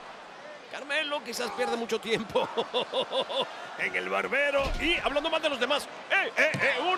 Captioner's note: laugh